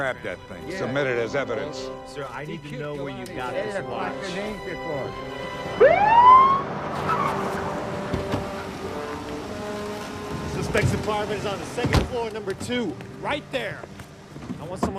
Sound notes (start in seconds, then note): 4.5 old man speaking foreign language; 5.6 siren beeping